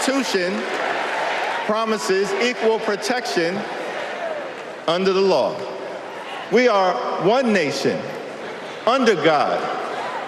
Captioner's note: cheers and applause